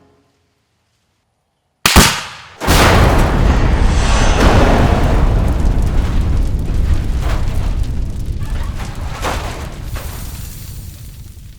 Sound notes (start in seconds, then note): 2.1 nitro exploding